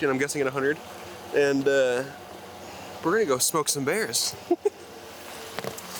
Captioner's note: giggles